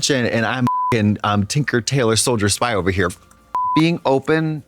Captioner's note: beep